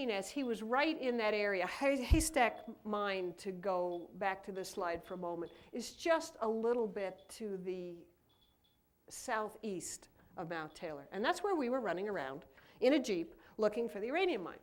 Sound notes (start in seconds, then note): none